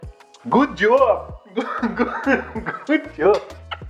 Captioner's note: laughs